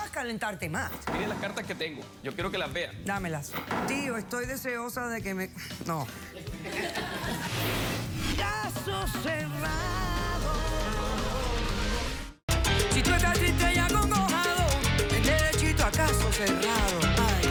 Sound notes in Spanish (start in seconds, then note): 6.3 risas